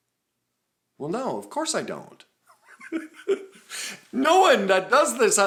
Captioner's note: laughs